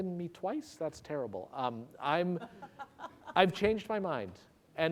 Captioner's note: laughter